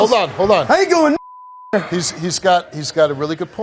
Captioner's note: beep